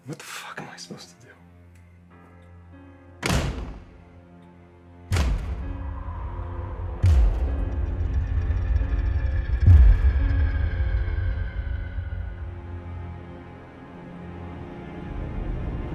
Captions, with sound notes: What the fuck am I supposed to do? (door slamming) (wind howling) (ominous orchestral music)